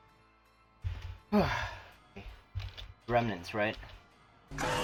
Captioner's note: relieved sigh